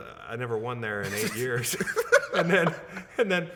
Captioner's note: laughing